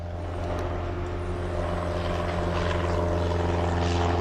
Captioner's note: plane engine roaring